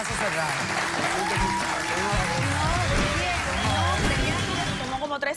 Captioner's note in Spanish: aplausos